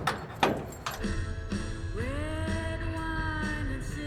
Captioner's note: closing the garage door